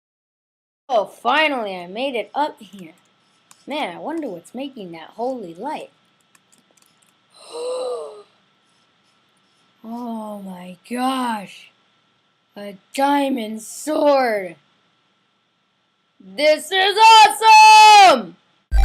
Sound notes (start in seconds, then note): 7.4 large gasp